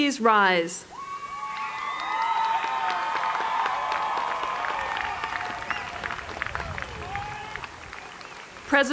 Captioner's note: applause